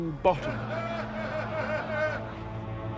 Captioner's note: voldemort's followers laughing